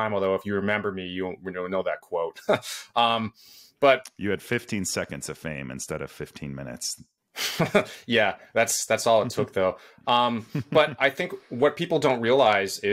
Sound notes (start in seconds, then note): 7.5 chuckles